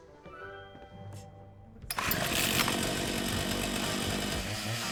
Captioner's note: chainsaw roars